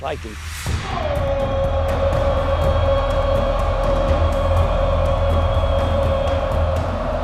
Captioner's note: cheering